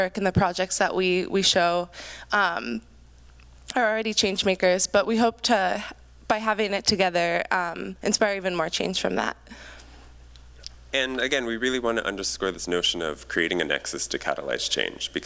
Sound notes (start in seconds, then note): none